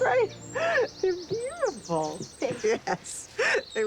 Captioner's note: laughing